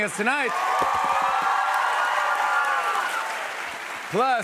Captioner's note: cheers and applause